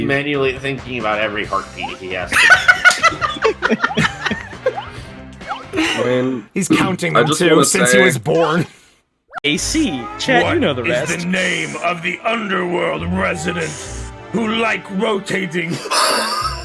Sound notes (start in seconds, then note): 2.3 laughing; 11.1 imposing voice